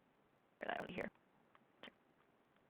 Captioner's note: glitching speaking